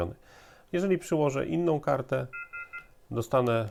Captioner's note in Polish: kilkukrotne piknięcie